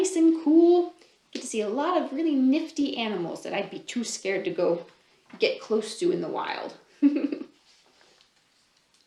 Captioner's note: laughs